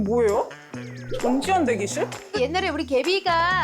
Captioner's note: puzzled sound effect